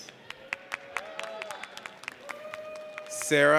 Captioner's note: audience applauds